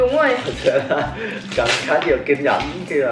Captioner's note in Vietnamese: cười